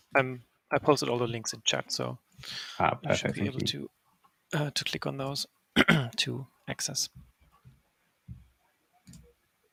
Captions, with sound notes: - I posted all the links in chat, so - Oh, perfect. - you should be able to click on those (clears throat) to access.